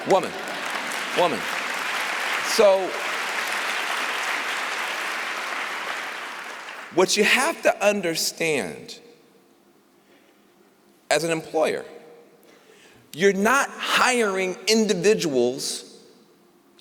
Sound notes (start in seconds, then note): 2.3 applause